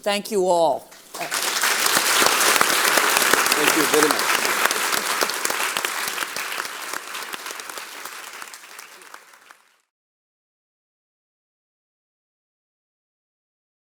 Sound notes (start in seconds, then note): 1.0 audience applause